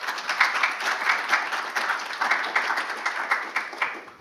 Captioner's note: audience applauds